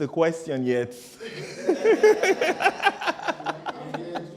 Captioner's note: laughter